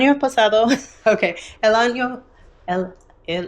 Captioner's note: speaking in foreign language